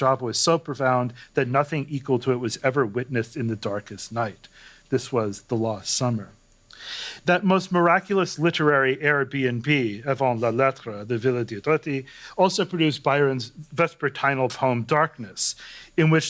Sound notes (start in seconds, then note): 11.1 non-english